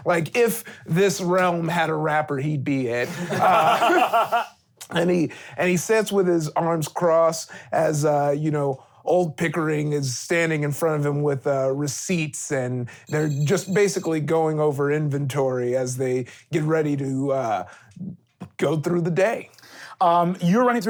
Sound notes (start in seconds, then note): 3.0 laughing